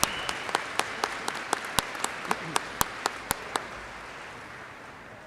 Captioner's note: audience cheers and applauds